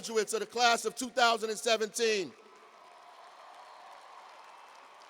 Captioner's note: cheers and applause